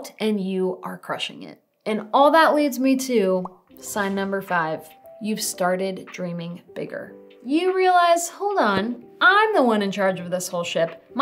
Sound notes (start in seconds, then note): 3.4 text bubble popping; 3.7 smooth music